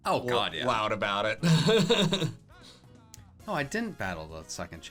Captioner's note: laughs